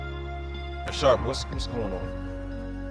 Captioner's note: voiceover